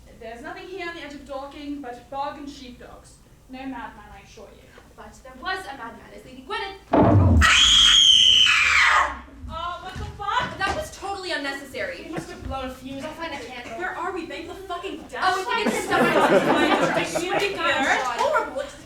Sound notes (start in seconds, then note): 7.4 scream; 15.2 overlapping chatter